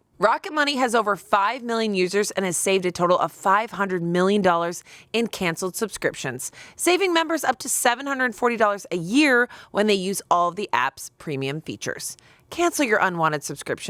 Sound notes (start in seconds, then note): none